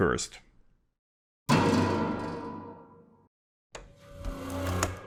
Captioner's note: sequence of sound effects